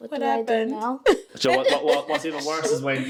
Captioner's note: laughing